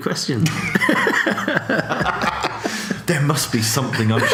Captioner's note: laughing